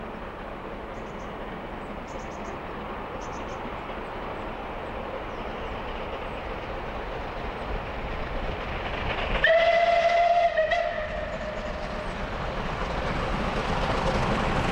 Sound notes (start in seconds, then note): 2.1 train passes